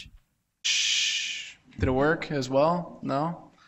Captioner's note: shushes